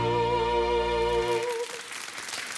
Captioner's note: audience applauds